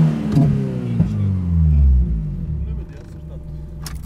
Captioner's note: car sound